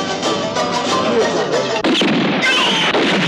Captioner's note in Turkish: Fonda özgün ve hareketli film müziği başlar; Silah sesleri, çığlıklar